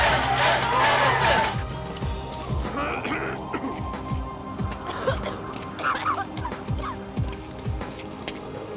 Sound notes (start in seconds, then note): 3.2 coughing